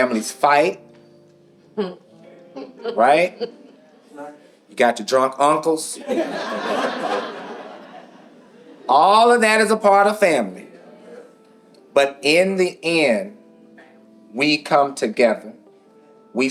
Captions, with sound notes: Families fight, right? You got your drunk uncles. (audience laughing) All of that is a part of family. But in the end, we come together, we